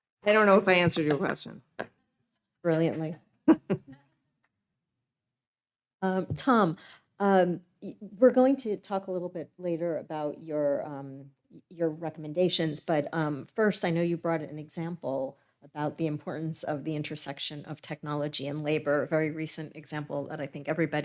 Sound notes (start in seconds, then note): 3.8 laughing